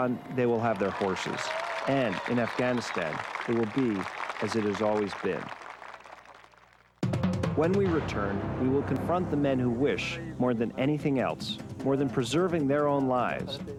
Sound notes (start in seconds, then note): 5.8 crowd cheering; 7.0 dramatic instrumental music